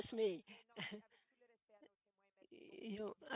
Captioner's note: speaking French